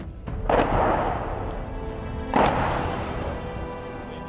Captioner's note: explosions blasting; somber music